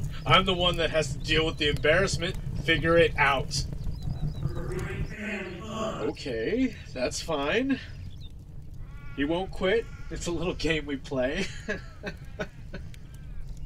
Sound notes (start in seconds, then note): 4.4 muffled yelling